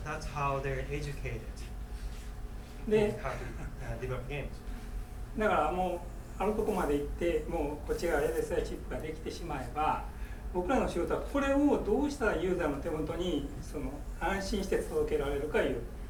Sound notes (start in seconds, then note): 3.0 speaking in foreign language; 3.8 laughing; 5.5 speaking in foreign language